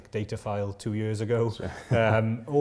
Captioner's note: chuckles